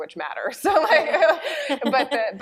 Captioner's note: laughter